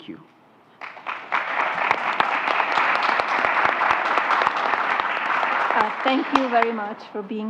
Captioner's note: applause